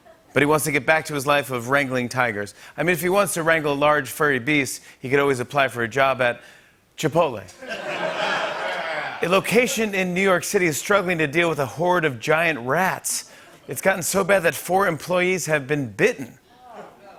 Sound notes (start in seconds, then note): 7.5 laughter